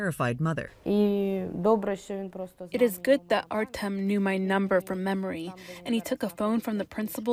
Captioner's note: through translator